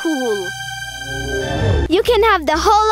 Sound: whirring

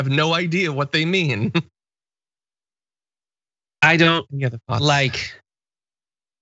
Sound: laugh

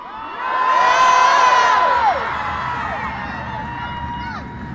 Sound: crowd

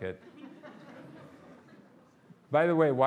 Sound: audience laughing

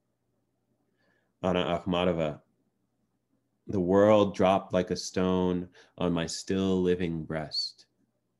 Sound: non-english

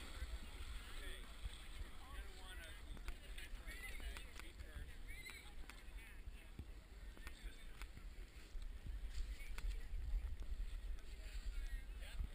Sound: background chatter

